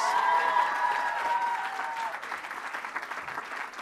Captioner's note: applause